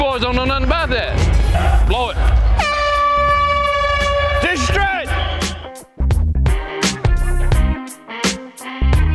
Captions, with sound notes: You boys don't know nothing about that. Blow it. (airhorn sounds) Distress! (blues music)